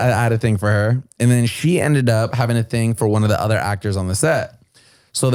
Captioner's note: none